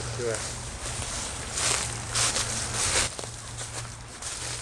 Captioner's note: leaves rustling